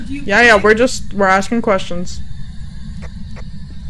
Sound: over Radio; static continues with no irregularities

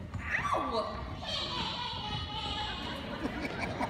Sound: laughing

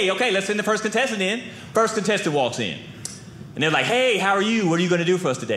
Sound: none

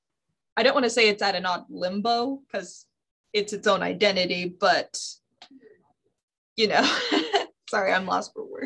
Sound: laughs

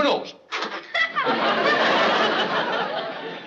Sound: laughs

